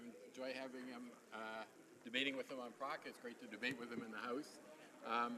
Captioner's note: speaking in french